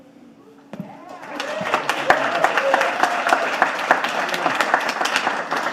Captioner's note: audience applauding